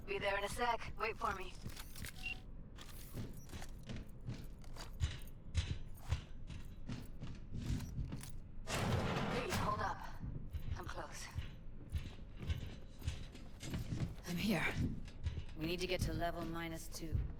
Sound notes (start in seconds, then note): 6.5 footsteps